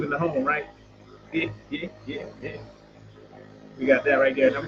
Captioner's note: laughing